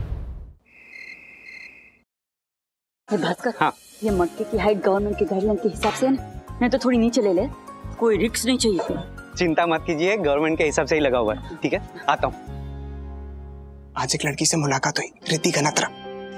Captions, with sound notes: [crickets chirping] - Bhasker. - Yes. Is the height of the pitcher as per the government's guidelines? You may bring it down. We don't want to take a risk. Please don't worry. It has been hung as per the government's guidelines. Okay? I'll be back. I met a girl today. Her name is Riddhi Ganatra.